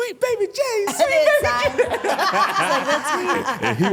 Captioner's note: laughs